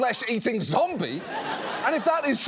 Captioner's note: studio audience laughs